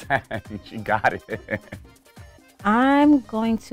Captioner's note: speaker chuckles